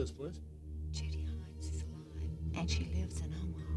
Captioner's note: on telephone